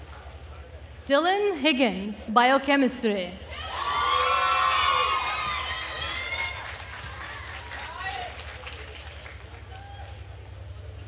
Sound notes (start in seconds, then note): 3.5 attendees cheering and applauding